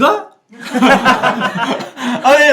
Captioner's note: laughing